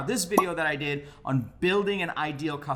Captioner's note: bubble popping